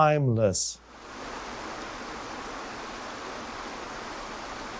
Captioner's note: water rushing